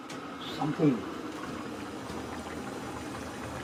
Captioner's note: boil